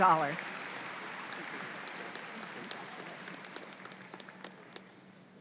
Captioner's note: audience applauds